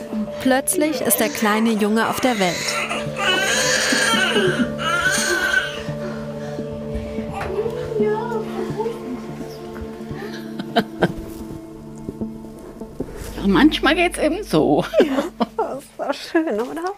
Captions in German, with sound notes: Plötzlich ist der kleine Junge auf der Welt. (Babyschreien) Manchmal geht's eben so. Ja. Das war schön, oder?